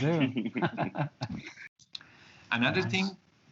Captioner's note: all laugh